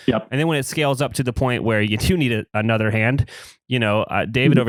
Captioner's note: laughs